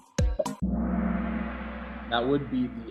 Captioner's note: gong